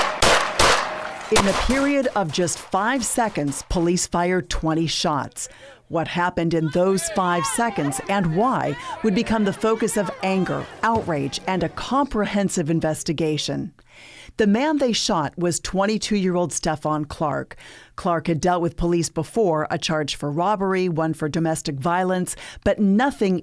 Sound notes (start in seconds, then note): 3.7 gunshots